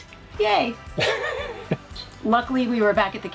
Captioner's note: chuckles